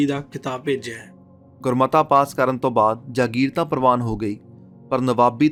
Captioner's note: joint discussion